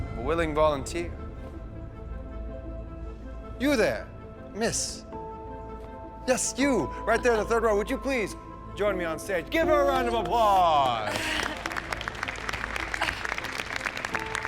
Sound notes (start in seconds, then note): 11.0 nervous chuckle; 11.9 audience applauding